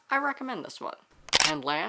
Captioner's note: camera shutter